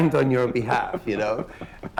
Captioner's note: laughter